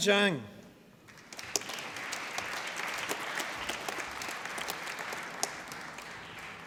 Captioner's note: applause